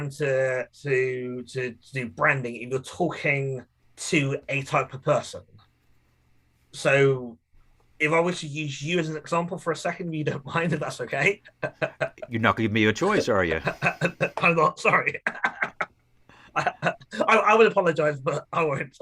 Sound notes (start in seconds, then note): 11.5 laughing